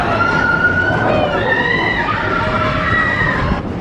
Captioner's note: screaming